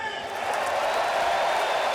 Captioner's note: cheering